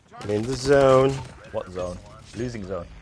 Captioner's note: rapid bursts of gunfire